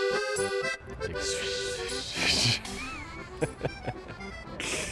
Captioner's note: skating mouth sounds; laughs; skating mouth sounds